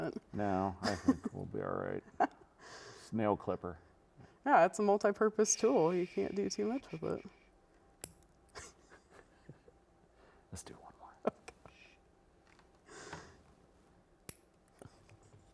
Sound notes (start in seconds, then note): 8.0 nail clipper snips; 11.2 giggling; 14.2 nail clipper snips